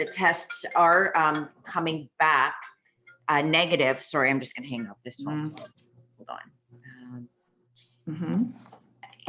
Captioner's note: phone rings